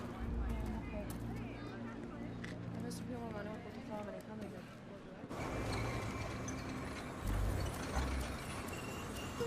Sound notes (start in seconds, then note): 2.7 Allegra speaking in Spanish